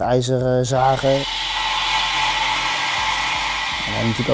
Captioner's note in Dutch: zaaggeluid